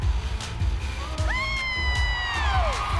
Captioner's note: cheering